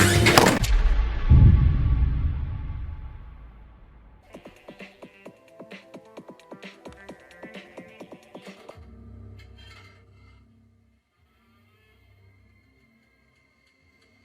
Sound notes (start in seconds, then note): 0.2 door slams; 4.3 lively music; 9.4 door creaks on TV show